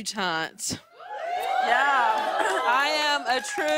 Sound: cheers and applause

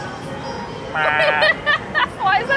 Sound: laughing

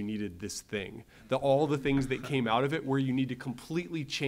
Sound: laugh

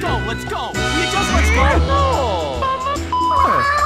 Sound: grunt; Disappointed Inkling noises

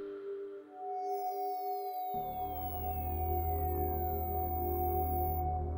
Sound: computer Generated Sound

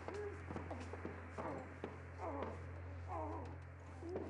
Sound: Pope groaning

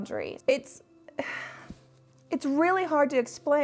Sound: sighs

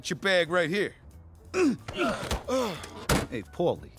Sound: both grunt

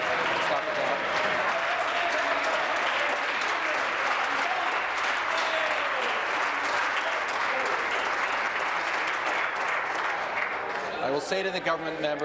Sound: applause

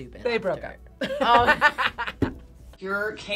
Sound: laughs

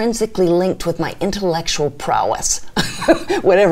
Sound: chuckles

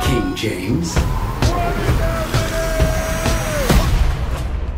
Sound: yelling

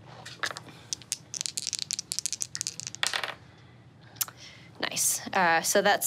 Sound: dice rattle and tap table

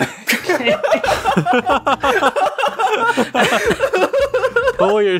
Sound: group laugh

